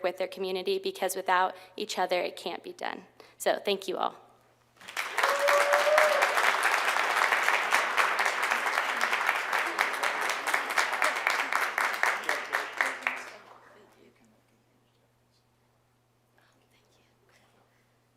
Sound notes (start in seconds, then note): 4.5 applause